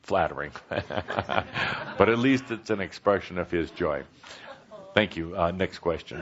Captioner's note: laughter, chuckles